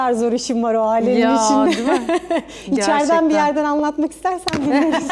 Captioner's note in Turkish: kahkaha